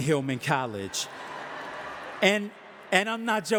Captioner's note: audience laughing